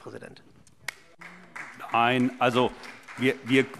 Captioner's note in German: Vereinzelter Beifall SPD